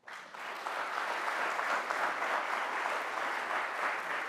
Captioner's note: speaks in a foreign language; audience applauds